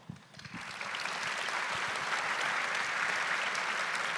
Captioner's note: audience applauding